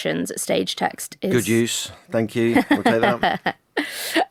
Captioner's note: laughs